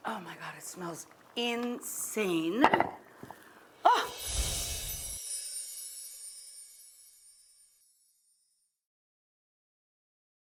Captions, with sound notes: Oh my God, it smells insane. Uh! (chiming)